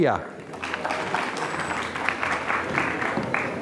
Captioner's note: applause